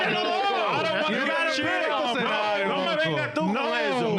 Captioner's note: yelling